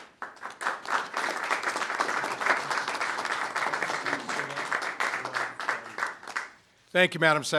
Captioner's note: applause